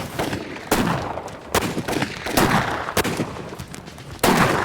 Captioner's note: gunfire